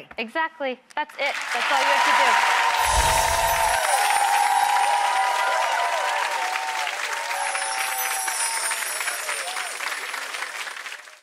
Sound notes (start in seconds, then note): 1.3 audience applauding; 2.7 chimes